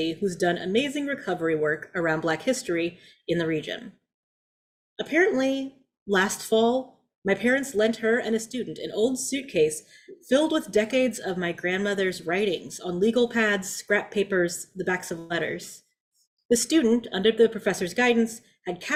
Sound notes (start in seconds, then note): none